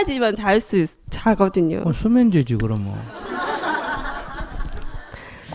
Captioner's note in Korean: 청중 웃음